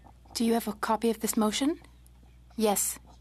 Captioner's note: speaking French